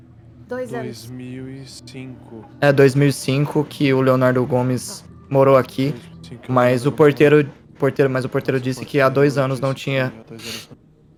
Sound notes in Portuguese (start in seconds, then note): 9.2 cochichando